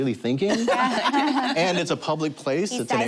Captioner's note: laughter